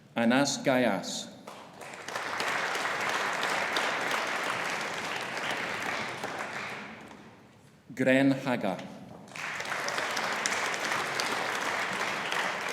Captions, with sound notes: Anas Ghayas. (AUDIENCE APPLAUDING) Gren Haga. (AUDIENCE APPLAUDING)